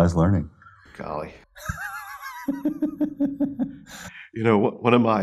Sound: laughs

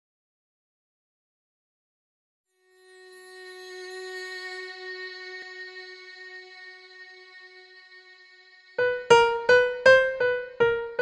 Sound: sound of mystery

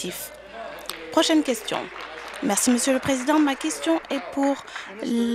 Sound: applause

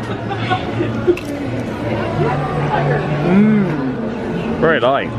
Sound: potato chip crunching

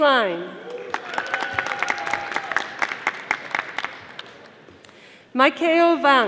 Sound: audience applauding

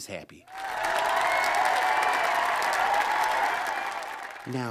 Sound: cheer/applause

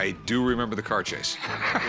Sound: laughs

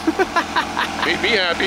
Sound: laughs

